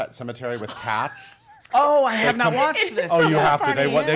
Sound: laughs

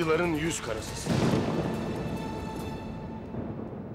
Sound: Gök gürültüsü efekti

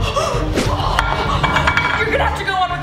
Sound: gasp; zapping; plate rattling

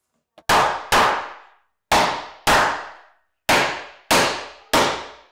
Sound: hammer thudding

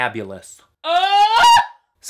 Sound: scream

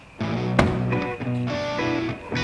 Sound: car door slam

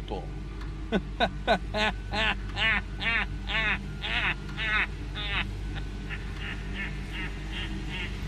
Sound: maniacal laughter

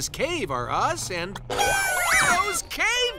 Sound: clucking

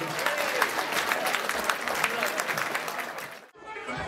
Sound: clapping

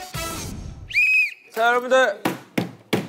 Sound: blowing the whistle

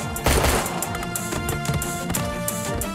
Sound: guns firing

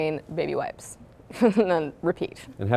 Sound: chuckles

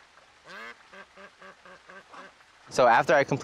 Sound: ducks quacking

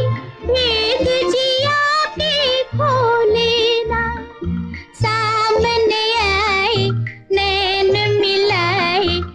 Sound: none

